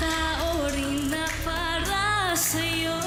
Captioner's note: crowd cheers